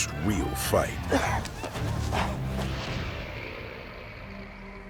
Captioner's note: whooping in distance